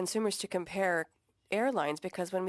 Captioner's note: speaking French